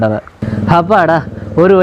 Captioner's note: sighs